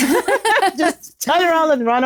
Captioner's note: laughing